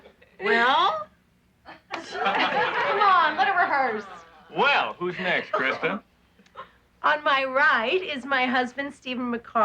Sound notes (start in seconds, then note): 1.7 laughing